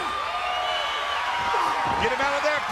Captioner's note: audience cheering